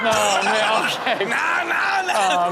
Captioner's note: crowd laughs